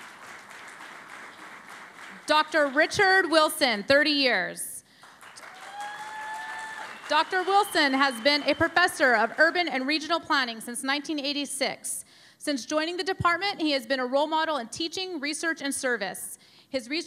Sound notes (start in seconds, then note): 6.6 cheering and Applause